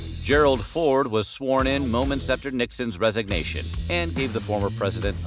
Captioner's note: none